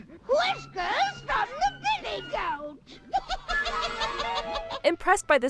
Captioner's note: cackling